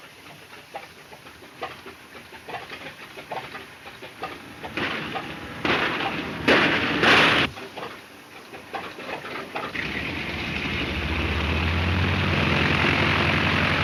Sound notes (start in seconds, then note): 6.4 gunshots; 9.7 airplane engine roaring